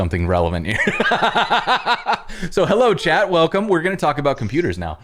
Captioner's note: laughter